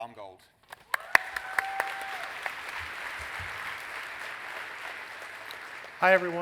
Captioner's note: clapping